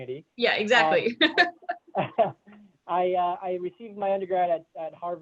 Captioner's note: laugh